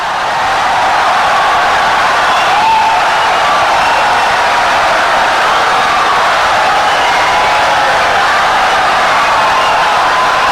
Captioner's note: wild applause and cheering for 17 seconds